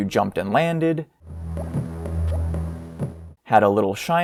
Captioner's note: jump sound effect